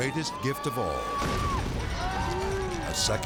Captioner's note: friend cheers; flame roars; friends cheering